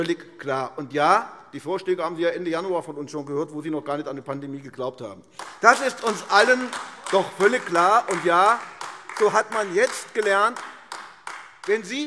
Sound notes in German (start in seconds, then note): 5.3 Beifall AfD